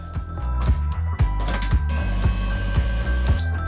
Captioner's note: soft gentle music; dough mixer whirring